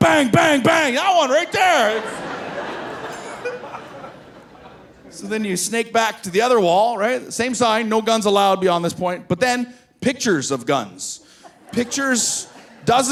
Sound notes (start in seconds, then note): 1.3 audience laughing; 3.6 laughing